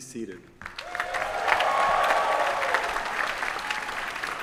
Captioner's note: applause